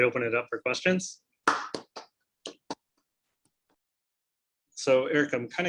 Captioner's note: applause